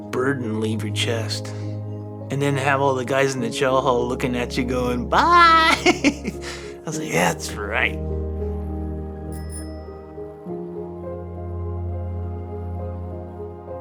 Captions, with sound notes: burden leave your chest and then have all the guys in the chow hall lookin' at you goin', "Bye." (chuckles) I was like, "That's right." (soft solemn music) (bell ringing)